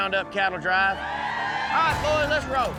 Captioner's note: crowd cheering